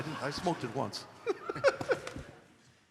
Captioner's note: laughter